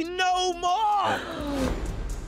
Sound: gasps

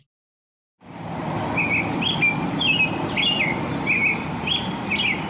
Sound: robin chirping

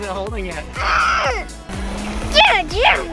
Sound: growls

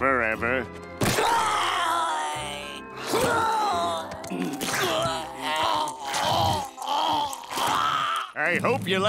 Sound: groaning

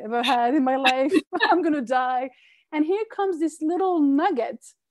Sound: laughing

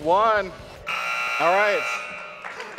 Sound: buzzer sounds

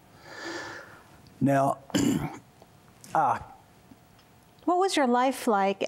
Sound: clears throat

